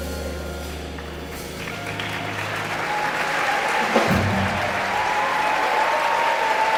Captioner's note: audience applauding and cheering